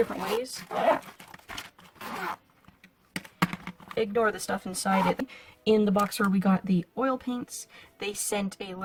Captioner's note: zipper sounds